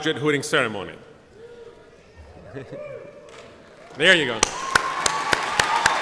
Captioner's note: cheers; applause